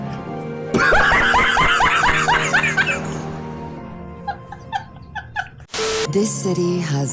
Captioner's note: hysterical laughing